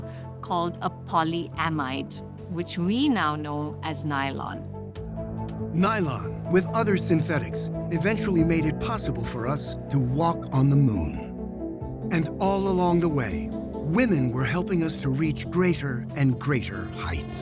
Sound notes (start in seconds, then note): 5.4 clicking